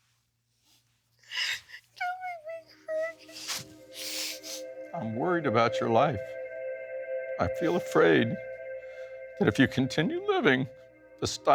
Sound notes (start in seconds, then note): 1.2 sobbing